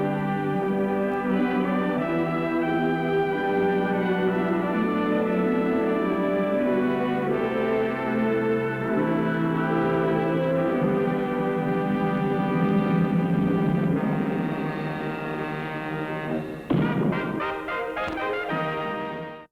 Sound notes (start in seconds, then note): 0.0 hopeful music; 13.8 menacing music; 16.6 explosion